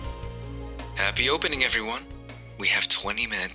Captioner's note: intercom